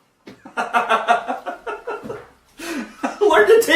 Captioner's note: Vernon laughing